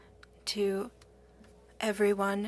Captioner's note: speaking French